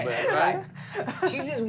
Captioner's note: laughter